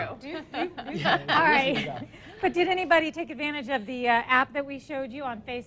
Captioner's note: laughing